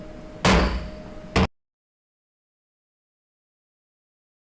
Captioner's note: gavel banging